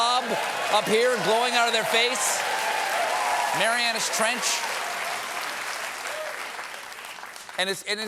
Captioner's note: applause